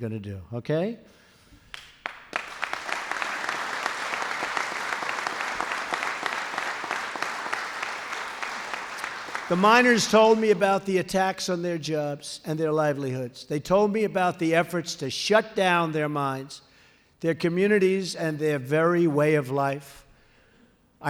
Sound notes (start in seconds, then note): 1.6 applause